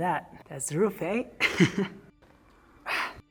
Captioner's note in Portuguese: risos